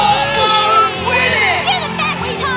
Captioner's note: cheers